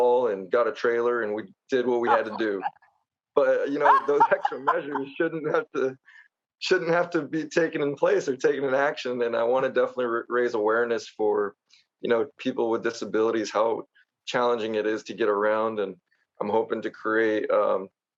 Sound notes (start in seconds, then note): 3.6 laughs